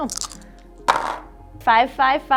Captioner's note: dice clunking on table